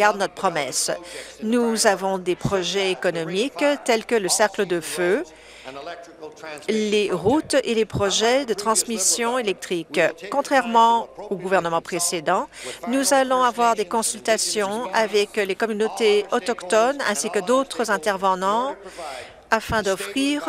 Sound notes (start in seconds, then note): none